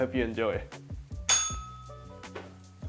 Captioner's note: bell rings